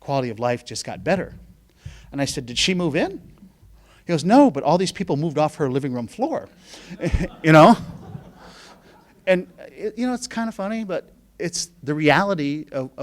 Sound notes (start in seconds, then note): 6.8 laughing